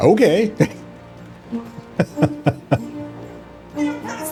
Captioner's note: laughs